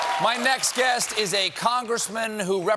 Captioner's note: applause